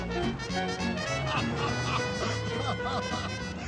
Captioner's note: laughing